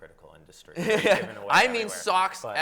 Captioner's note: laughs